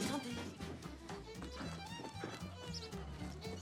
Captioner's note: speaking french